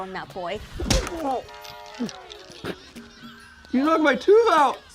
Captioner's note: tooth cracks